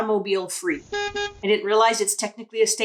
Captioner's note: car honks